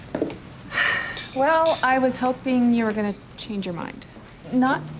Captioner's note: sighs